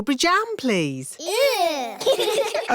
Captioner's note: giggling